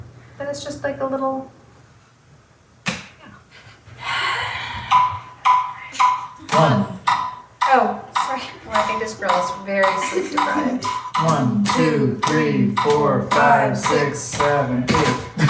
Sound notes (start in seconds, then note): 4.0 sigh